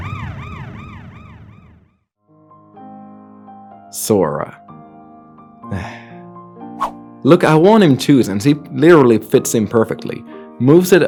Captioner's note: sigh